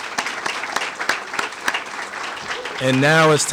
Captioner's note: applause